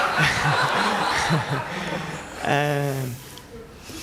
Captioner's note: laughter